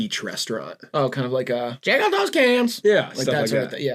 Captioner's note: parrot voice